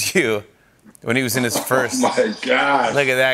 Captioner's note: laughs